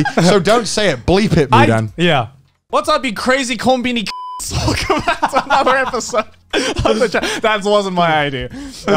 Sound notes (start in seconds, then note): 4.0 beep; 4.5 laughs